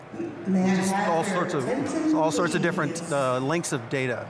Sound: raffle announcements beginning on loudspeaker

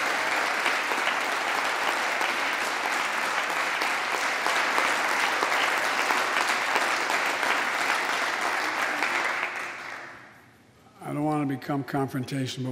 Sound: applause

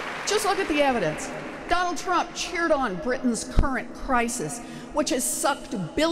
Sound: applause

